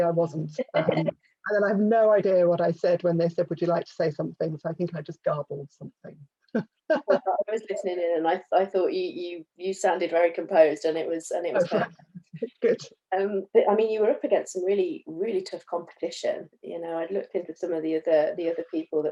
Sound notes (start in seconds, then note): 6.9 laughs; 11.5 laughs